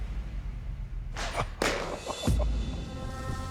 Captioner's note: chuckles